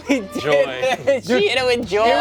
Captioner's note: laughs